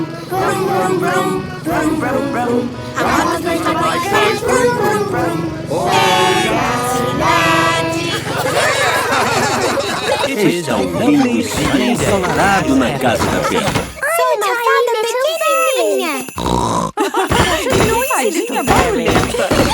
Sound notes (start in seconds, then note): 15.3 laugh; 16.3 snort